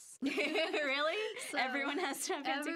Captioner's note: both laughing